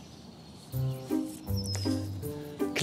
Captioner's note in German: Schreitende Klänge